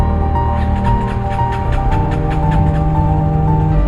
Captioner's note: engine turning over, won't start